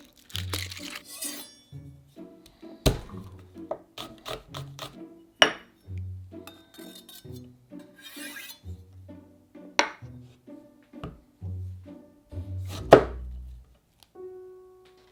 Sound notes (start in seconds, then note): 2.8 knife smashing; 4.0 knife cutting